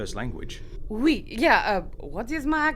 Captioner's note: Reylaesian/French accent